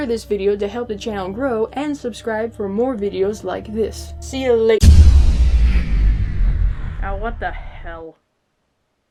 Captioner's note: power goes down